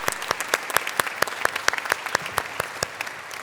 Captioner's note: applause